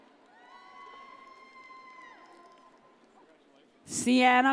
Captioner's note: audience cheers